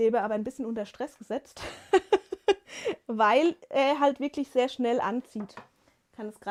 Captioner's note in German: gelächter